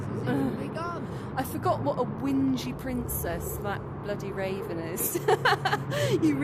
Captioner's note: laughing